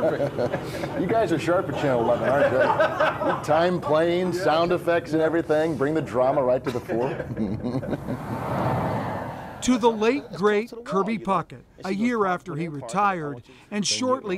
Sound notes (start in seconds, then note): 2.1 laughter; 6.6 laughter